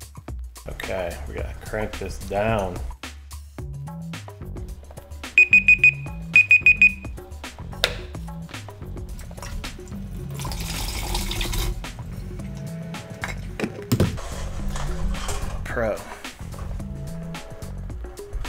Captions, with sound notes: okay we're gonna crank this down *timer beeping* I'm a pro